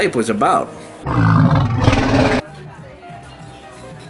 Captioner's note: monster growling